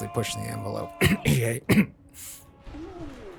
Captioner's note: cough